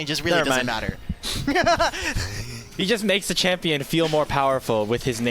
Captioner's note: snorts and laughter